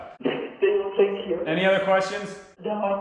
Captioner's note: laughs